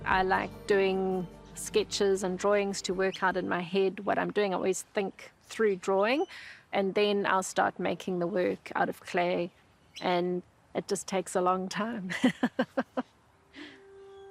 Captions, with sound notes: I like doing sketches and drawings to work out in my head what I'm doing. I always think through drawing. And then I'll start making the work out of clay, and it just takes a long time. (LAUGHS)